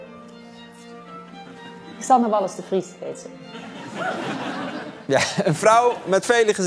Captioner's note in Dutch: gelach